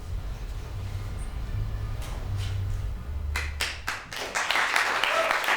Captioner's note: applause